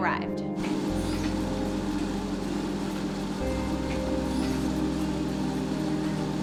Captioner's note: treadmill whirring over dramatic electronic music